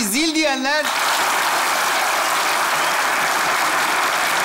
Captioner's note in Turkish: alkış sesleri